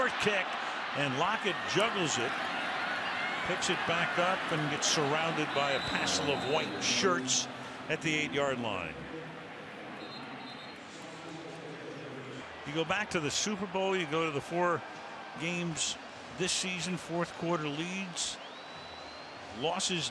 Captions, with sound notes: He got a short kick and Lockett juggles it, picks it back up, and gets surrounded by a passel of white shirts at the 8-yard line. [whistle] You go back to the Super Bowl. You go to the 4 games this season, fourth quarter leads.